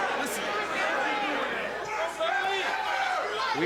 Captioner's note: crowd chatter